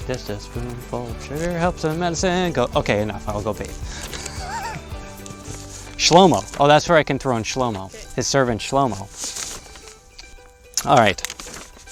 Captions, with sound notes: Just a spoonful of sugar helps the medicine go down, okay, enough, I'll go bath (laughs). Shlomo, oh, that's where I can throw in Shlomo. His servant Shlomo, all right.